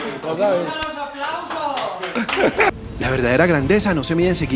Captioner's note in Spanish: Aplausos